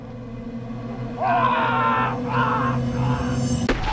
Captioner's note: Andrew grunting; chilling music rising; Andrew screams; gun fires